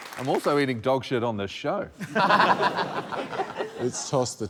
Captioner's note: laughter